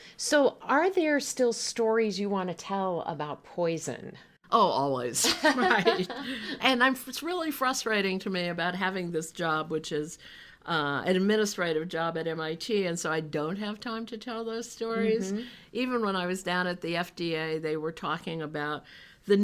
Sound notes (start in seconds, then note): 5.4 laughing